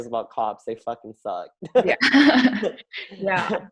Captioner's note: all laugh